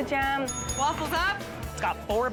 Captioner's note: bell dings